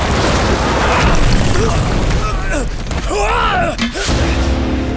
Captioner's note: grunting